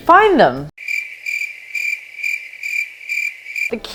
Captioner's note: sound of crickets